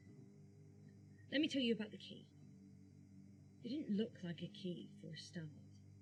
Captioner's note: none